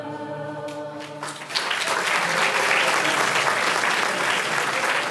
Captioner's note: audience applauding